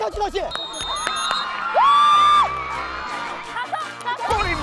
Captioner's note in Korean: 호루라기 소리